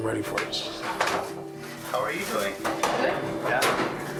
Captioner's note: door rattling